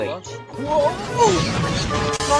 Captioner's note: crash